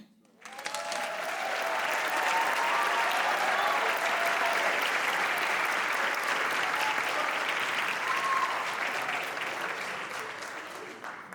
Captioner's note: applause